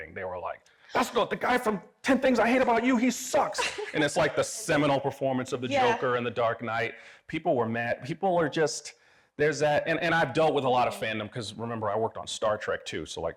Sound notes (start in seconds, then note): 3.4 laughing